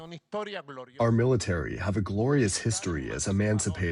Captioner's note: through translator